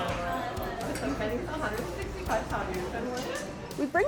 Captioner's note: students chattering